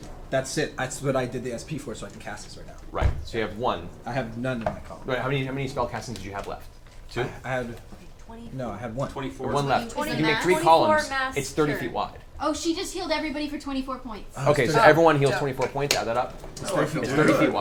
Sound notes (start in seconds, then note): 9.0 whispers; 14.9 whispers